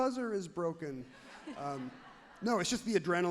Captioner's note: crowd laughs happily